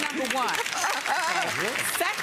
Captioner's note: audience applauds